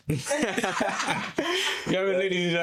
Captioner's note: laughter